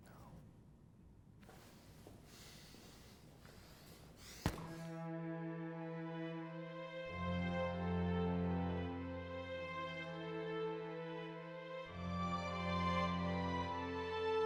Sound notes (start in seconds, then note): 1.7 footsteps pattering; 4.3 fist pounds; 5.6 somber dramatic music; 8.6 somber dramatic music continues